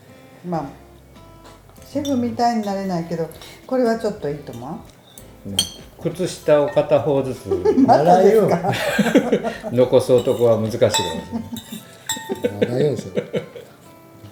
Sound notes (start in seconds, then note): 11.2 laughs